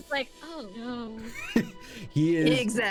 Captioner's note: laughter